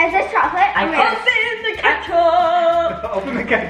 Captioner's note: sing-songy